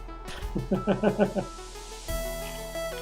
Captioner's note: chuckles